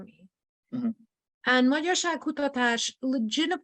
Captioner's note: speaks in foreign language